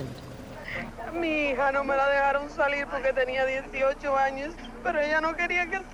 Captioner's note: refugee speaks in foreign language